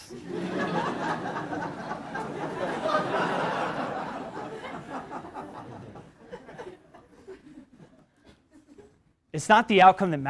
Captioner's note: laugh